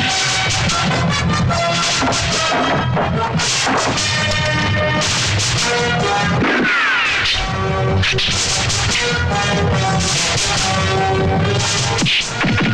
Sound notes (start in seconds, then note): 6.3 gunShot